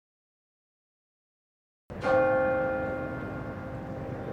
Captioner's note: bell chimes